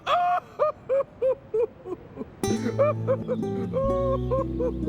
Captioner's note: sobbing